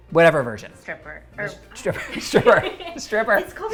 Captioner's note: both laugh